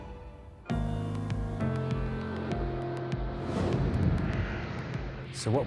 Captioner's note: tense pensive music; air whooshing